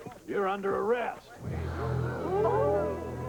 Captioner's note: crowd gasping